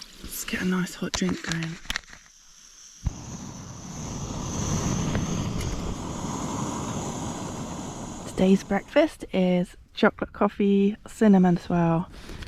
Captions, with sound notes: let's get a nice hot drink going *stove roaring* today's breakfast is chocolate coffee, cinnamon swirl